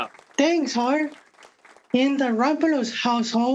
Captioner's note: audience clapping